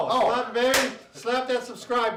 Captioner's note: hand claps